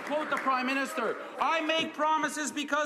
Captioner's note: some Applause